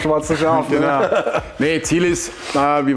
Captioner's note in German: lacht